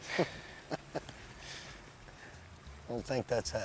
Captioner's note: laughs